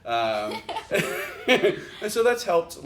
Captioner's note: chuckle